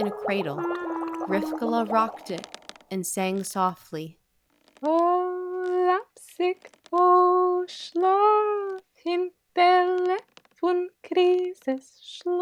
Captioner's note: Yiddish